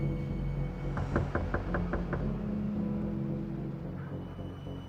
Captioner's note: door knocking; foreboding music